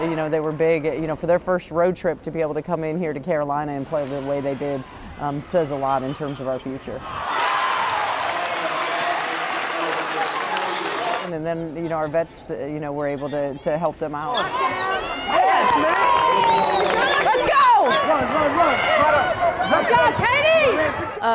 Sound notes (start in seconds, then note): 7.1 cheers and applause; 15.2 cheers and applause